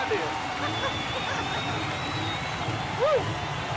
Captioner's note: woman laughing